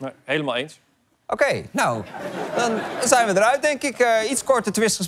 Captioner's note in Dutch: gelach